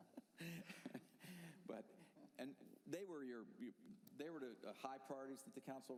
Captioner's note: laughter